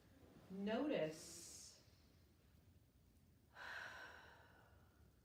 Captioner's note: breathes deeply